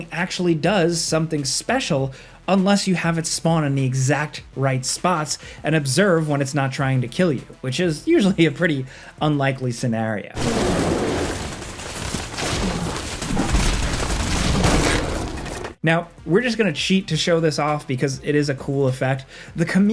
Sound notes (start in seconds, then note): 10.4 intense ambient music; 10.6 monster grunting; 15.8 upbeat ambient music